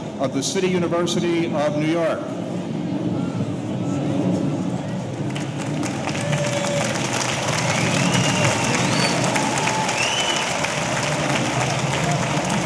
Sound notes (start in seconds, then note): 5.0 audience applauding; 5.3 audience cheering